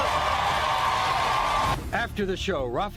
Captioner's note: audience cheering